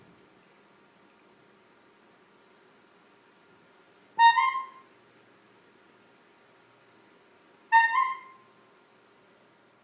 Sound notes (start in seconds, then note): 4.2 bulb horn; 7.7 bulb horn